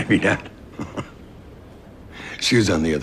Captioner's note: chuckles